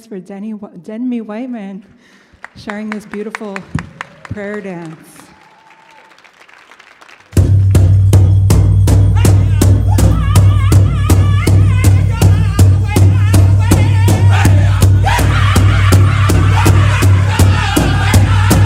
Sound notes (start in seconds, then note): 5.3 audience applauds; 7.3 bright rhythmic music; 14.3 group singing in Native language